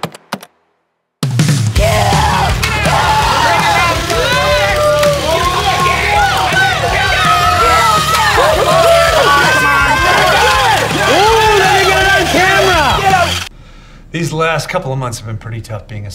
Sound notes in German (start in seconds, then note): 1.5 lebendige Musik; 3.8 Leute schreien undeutlich